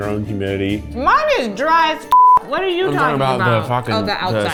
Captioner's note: beep